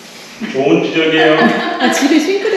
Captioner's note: laughs